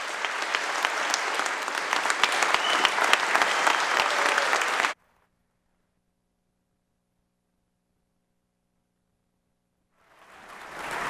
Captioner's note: applause